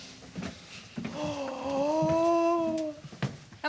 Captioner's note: gasps